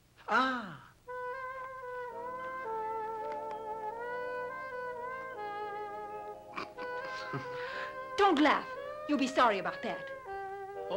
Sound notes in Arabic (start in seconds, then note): 1.3 موسيقى حارة; 6.5 جو يضحك